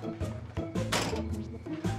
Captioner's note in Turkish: Kapı kapanma sesi